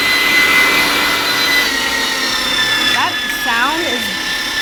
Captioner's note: grinder whirring